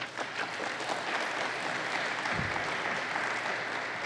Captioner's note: applause